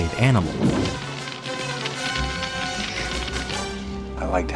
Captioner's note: fire crackling